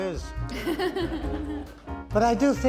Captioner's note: audience laughing